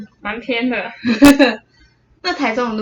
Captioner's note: giggle